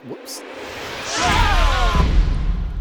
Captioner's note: all scream